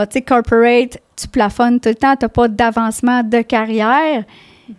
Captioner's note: in french